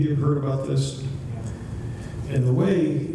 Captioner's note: voiceover